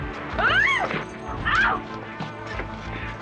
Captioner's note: screaming